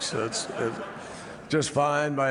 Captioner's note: laughter